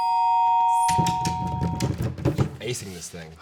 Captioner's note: bell ringing; both banging on table